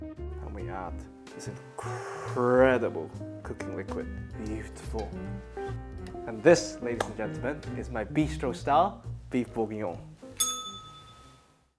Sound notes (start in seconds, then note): 10.4 bell rings